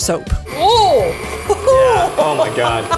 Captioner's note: mixer whirling; laughing